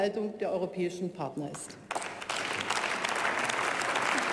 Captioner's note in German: Beifall bei der CDU/CSU und der SPD